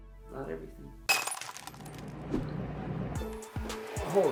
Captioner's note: glass shattering; upbeat pop music